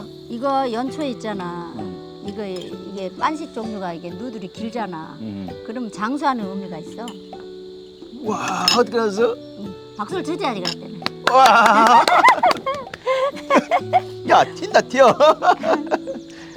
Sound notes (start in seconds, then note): 10.6 claps; 13.1 both laughing